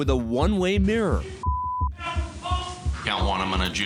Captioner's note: shouting, cursing